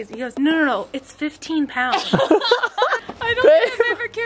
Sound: laughing

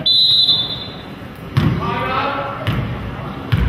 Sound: whistle blows

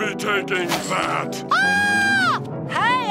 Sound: screaming

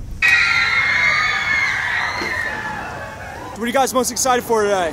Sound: girls screaming

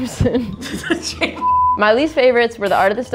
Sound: laughing; beeping

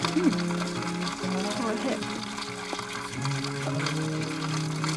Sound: laughs

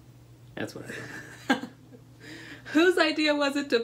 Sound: laughter

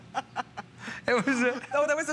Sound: laughter

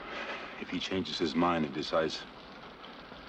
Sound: sighs

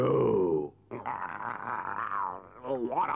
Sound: Chief Weasel groans

